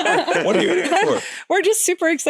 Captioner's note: playfully